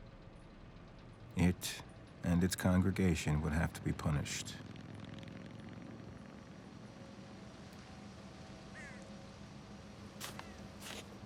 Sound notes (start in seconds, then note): 4.7 motorcycle engine buzzing; 8.7 bird cawing